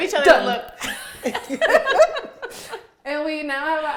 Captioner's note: all laughing